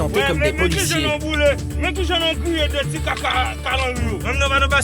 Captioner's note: French spoken audio